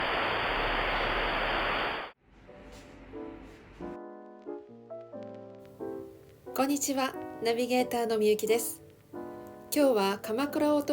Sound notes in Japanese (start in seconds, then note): 0.0 ラジオノイズ